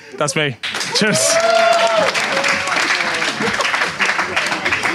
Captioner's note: audience cheers; Sidemen applaud